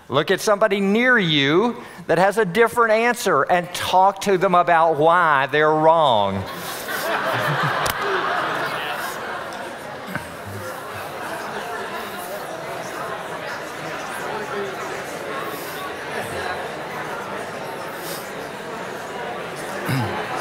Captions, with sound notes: Look at somebody near you that has a different answer and talk to them about why they're wrong. [audience laughing] [audience chattering]